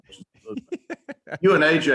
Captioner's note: laughing